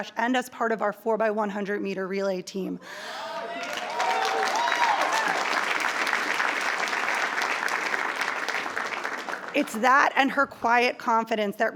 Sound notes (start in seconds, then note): 3.1 attendees cheering; 3.2 attendees applauding